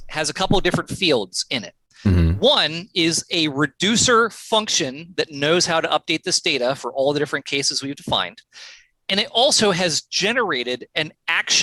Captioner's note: audio cutting out